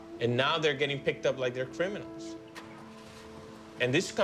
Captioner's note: car starts